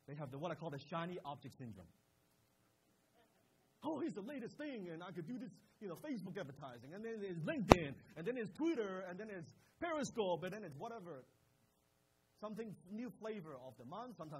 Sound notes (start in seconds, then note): none